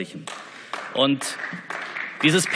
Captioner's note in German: Beifall